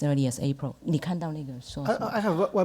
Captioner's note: speaks Mandarin